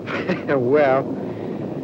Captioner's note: laughs